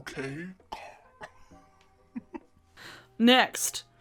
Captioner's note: laughs